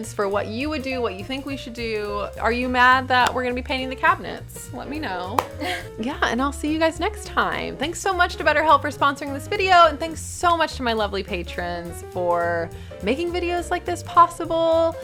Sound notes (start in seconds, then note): 5.6 laughing